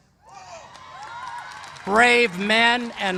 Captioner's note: cheers and applause